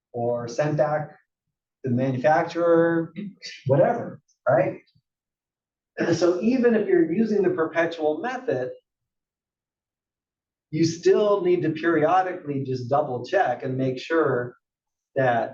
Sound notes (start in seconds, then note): 5.8 cough